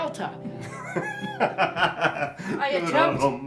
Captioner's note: laughing